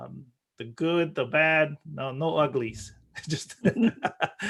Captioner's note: laughing